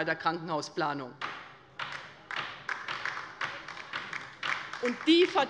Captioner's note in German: Beifall bei der LINKEN